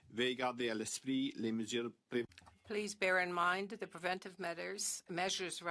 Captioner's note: speaking French